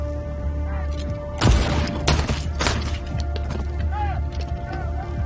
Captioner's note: gun shots firing; thugs yelling